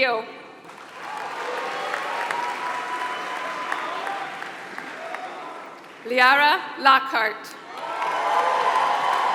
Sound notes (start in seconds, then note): 0.0 applause; 7.6 applause